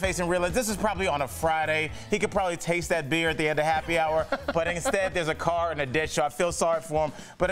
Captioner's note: laughter